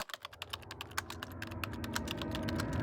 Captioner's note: typing